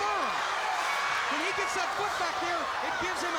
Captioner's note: crowd cheering